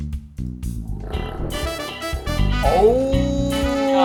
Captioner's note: nail polish vibrating; funky music